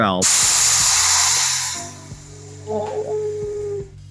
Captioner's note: angry hissing sounds